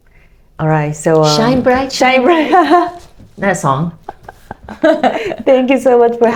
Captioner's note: laugh